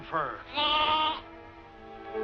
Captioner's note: bleating